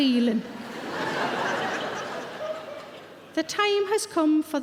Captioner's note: audience laughing